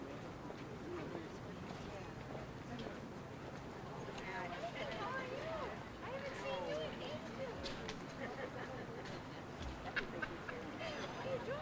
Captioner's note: general chatter